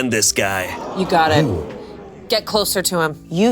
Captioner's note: audience gasping